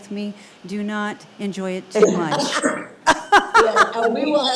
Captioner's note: laughs